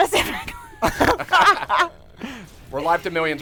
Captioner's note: laughter